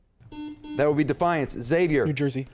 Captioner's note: beep